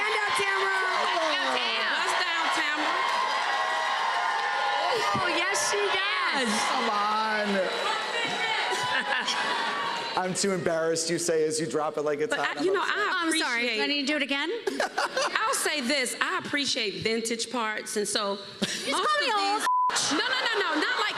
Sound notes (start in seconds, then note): 3.7 cheers and applause; 8.1 cheers and applause; 14.6 laughs